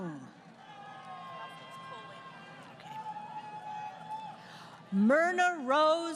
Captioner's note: crowd Cheering